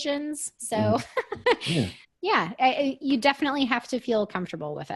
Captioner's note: laughs